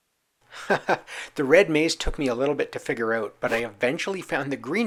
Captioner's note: chuckles